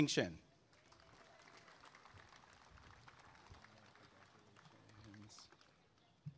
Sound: applause and cheering

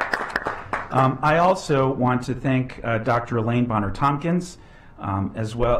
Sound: applause

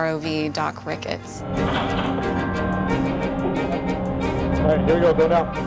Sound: machine sounds and music

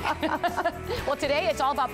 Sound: laughter

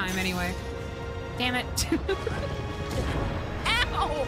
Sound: laughter

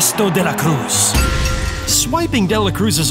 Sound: Bell Rings as Crashes De La Cruz

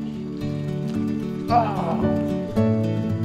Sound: disappointed groans

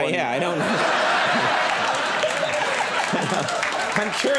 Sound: audience laughs

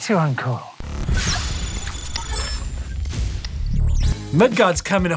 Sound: electronic beeping

